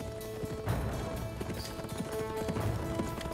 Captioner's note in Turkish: At nalı sesleri